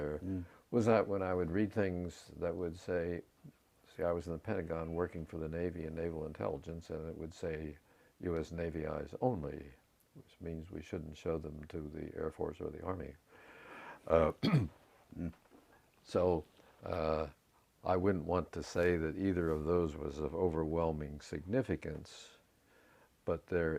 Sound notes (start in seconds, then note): 14.4 cough